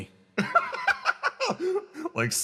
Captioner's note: laugh